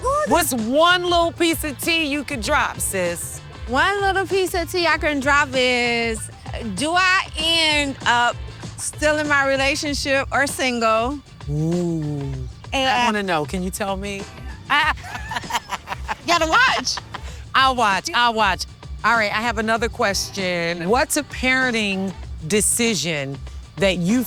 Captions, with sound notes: What's one little piece of tea you could drop, sis? One little piece of tea I can drop is, do I end up still in my relationship or single? Ooh. I want to know. Can you tell me? [LAUGHTER] Gotta watch. I'll watch, I'll watch. All right, I have another question. What's a parenting decision that you